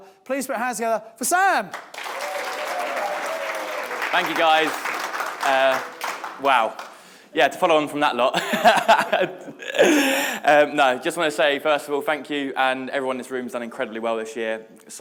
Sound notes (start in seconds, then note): 1.6 audience applauding; 8.4 laughs